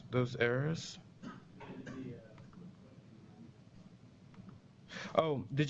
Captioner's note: pause